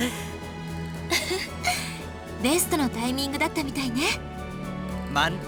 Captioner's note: chuckle